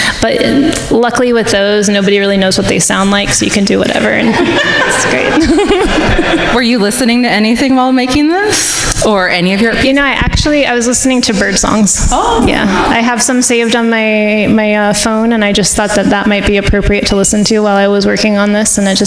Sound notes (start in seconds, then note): 4.2 everyone laughing